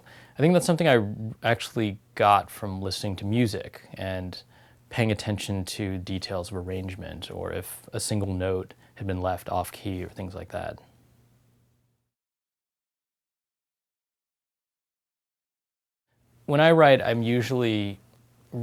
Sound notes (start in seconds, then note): 13.7 pause